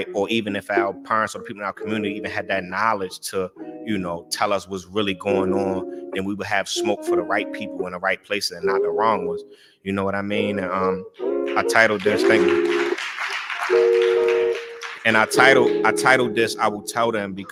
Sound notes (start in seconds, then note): 13.1 applause